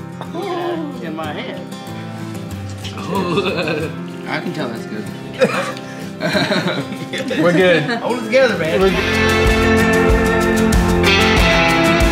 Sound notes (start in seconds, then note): 5.2 laughing; 5.2 coughing